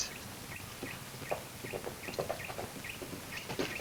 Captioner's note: bird tweets; hooves clomp